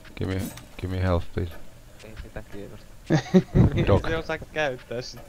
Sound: chuckle

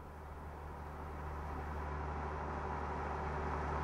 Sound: truck rumbles

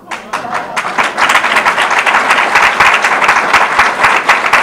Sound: audience applause

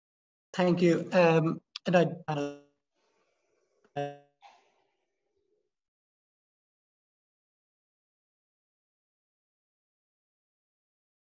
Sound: sound distortion

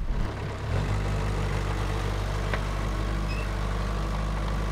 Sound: vehicle engine humming

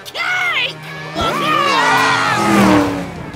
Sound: yelling

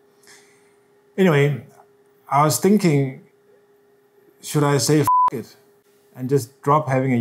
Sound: beep

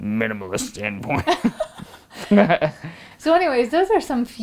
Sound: laughing

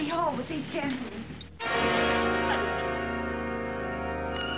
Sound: crying Continues

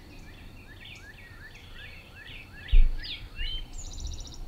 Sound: birds chirping

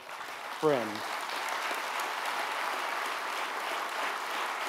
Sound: audience applauds

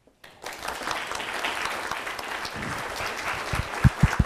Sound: audience applauding

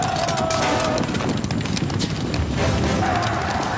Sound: horse hooves thundering; soldiers yelling

